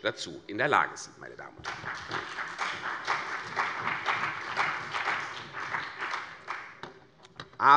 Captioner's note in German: Beifall CDU und BÜNDNIS 90/DIE GRÜNEN